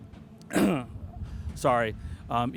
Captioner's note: coughing